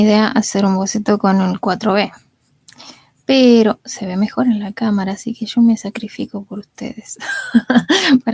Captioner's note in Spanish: risas